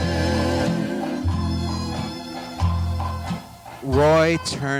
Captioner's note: horse feet clopping